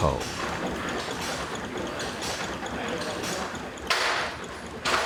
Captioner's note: machine chugging and whirring